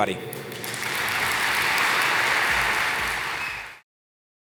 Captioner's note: applause